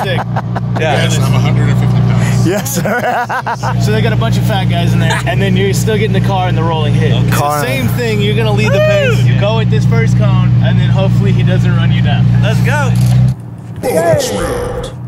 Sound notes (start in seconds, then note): 2.1 laughter; 2.8 laughs